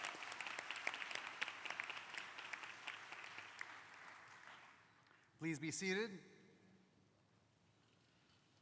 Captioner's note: applause